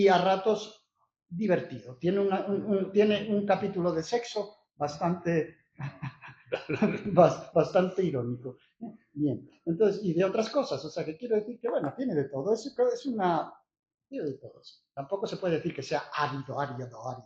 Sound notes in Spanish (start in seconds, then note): 5.8 risas